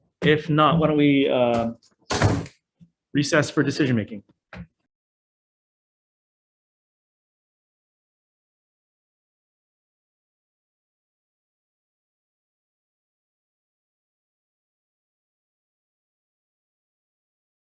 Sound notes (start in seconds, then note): 4.6 gavel strikes